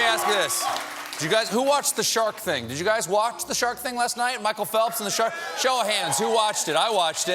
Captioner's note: cheers and applause